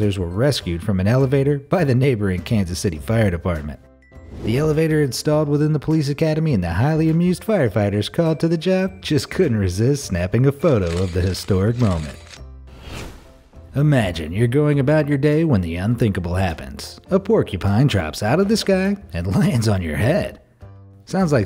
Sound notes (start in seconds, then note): 10.8 shutters clicking; 12.7 air whooshing